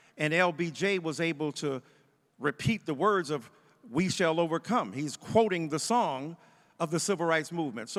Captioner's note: none